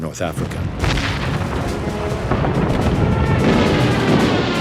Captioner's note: bombs explode